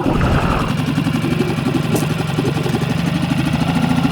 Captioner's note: boat whirring